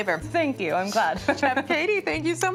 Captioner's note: chuckles